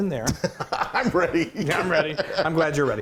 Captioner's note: giggling